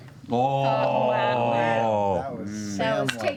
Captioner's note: groaning